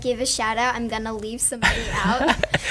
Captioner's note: laughs